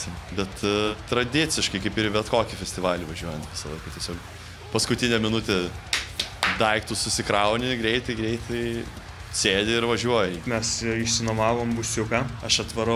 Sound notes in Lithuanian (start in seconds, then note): 5.7 clap clap clap